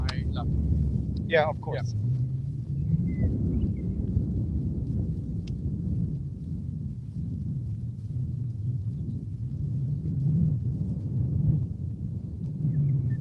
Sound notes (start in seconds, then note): 2.3 wind